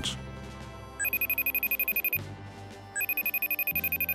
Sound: phone ringing

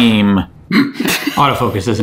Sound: laughing

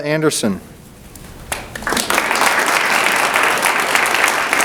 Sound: audience applauds

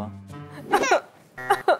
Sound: cries

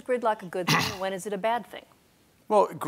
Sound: clears his throat

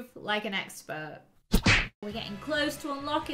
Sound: slap thumps

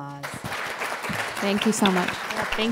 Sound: audience applauding

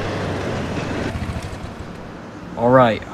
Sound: vehicle shuts off

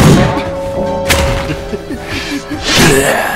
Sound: wheeze

